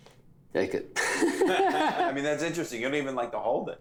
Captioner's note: laughs